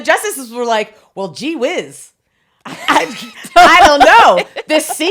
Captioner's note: both laughing